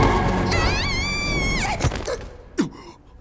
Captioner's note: wails; gasps